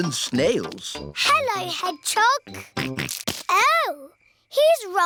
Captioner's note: snorts